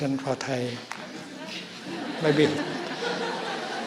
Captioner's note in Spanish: Risas